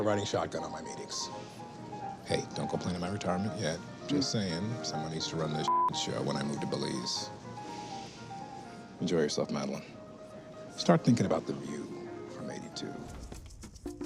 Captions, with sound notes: riding shotgun at my meetings. Hey, don't going planning my retirement yet. Just saying, someone needs to run this (beeping) show when I moved to Belize. Enjoy yourself, Madeline. Start thinking about the view from 82.